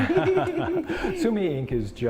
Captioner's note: laughing